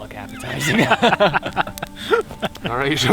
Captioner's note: all laughing